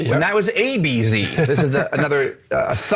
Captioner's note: laughs